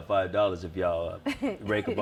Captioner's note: laughs